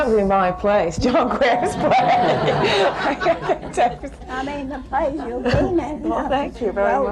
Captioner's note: laughter